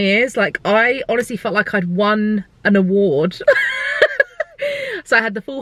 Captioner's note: laughing